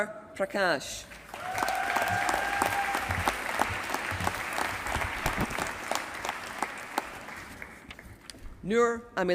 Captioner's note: applause